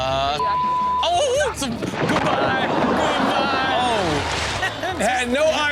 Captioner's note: beep; man exclaims